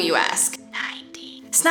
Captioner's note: whispering